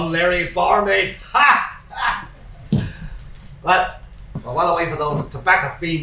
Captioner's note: laughs